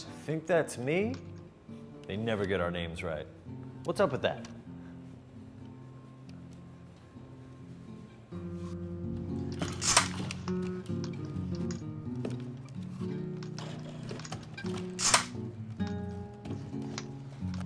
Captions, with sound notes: I think that's me? They never get our names right. What's up with that? (gun hits table) (gun hits table)